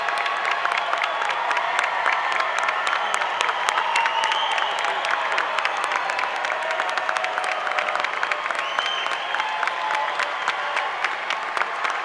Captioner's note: applause